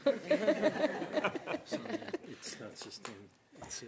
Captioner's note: laughter